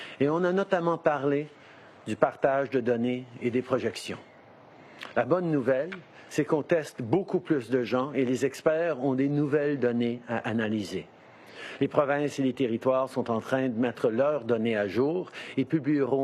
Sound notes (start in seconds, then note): 11.0 speaking French